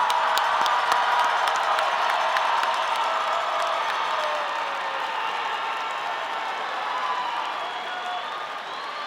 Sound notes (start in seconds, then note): 0.0 audience cheering